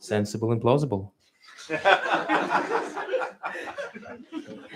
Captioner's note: laughter